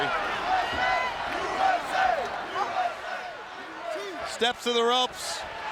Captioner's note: audience chanting